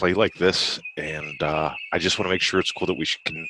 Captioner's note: birds chirping